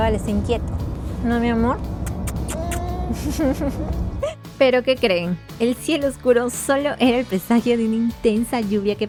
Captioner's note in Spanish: risas